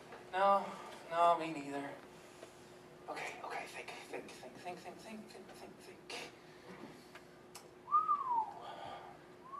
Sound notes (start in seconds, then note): 7.8 whistles